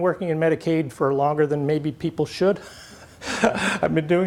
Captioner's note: laughs